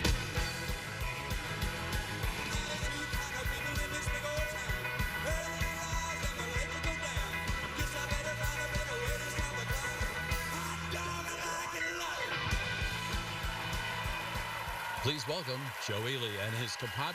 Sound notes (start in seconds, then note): 13.5 cheers and applause